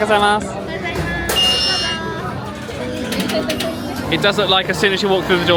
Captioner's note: sensor beeping